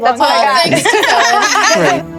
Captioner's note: laughter